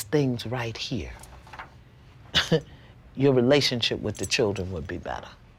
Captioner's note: chuckles